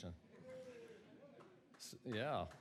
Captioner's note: cheers and hoots from audience